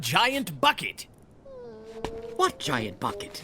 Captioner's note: Kakkay whining